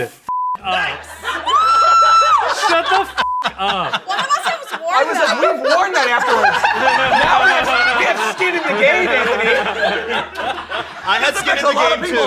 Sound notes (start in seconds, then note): 1.4 screams; 6.6 everyone laughs